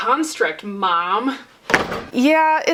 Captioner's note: door slam